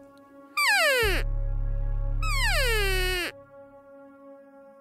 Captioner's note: elk call